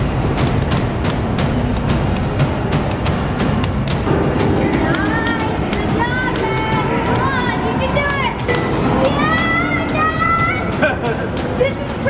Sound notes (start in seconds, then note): 0.2 epic music; 9.2 cheering; 10.6 laughing